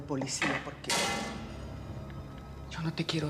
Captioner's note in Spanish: ruido al tirar tapadera